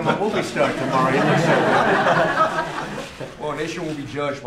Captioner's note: laughter